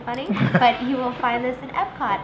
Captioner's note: laughter